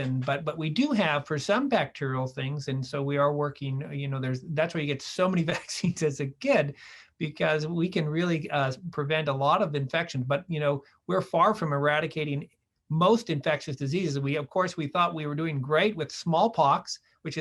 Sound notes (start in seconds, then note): 5.4 laughter